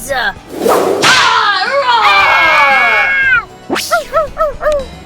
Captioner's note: roars; dog barks